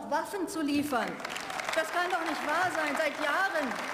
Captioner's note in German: Beifall